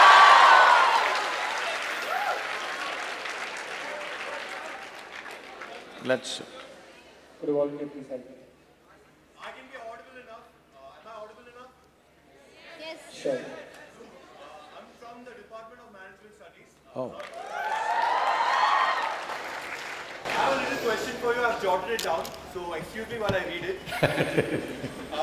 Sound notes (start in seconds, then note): 17.2 audience Cheers; 23.8 Sadhguru laughs